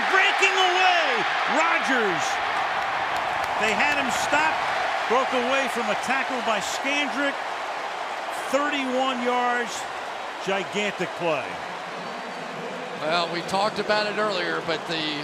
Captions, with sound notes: And then breaking away, Rodgers. [cheering] They had him stopped. Broke away from a tackle by Scandrick. 31 yards, gigantic play. Well, we talked about it earlier.